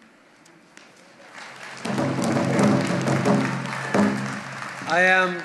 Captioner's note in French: Applaudissements et battements de tambour